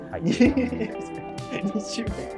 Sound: laughing

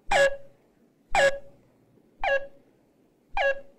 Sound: alarm beeping

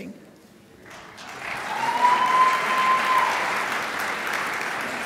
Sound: crowd applauds

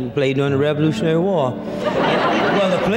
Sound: audience laughter

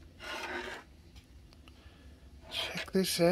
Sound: wood scrapes

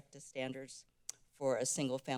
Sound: clicks tounge

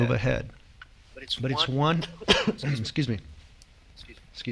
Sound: coughs

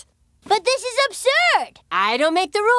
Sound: none

